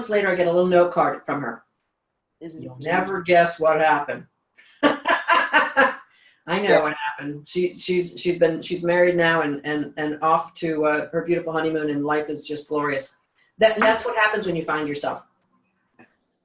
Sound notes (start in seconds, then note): 4.8 laughs